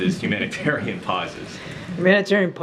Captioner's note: laughs